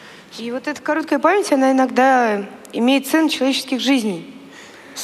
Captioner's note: foreign Language